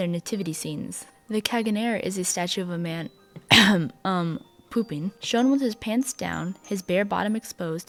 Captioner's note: coughing